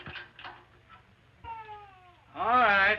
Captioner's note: gate rattles; baby wailing